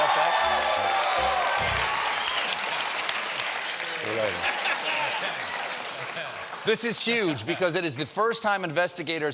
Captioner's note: laughter